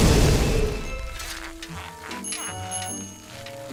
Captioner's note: bicycle bell rings